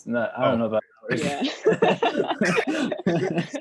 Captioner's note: laughs